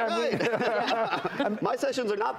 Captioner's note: laughing